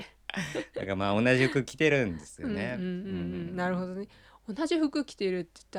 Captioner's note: laughs